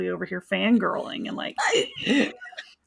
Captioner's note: both giggling